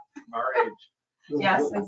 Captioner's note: female chuckles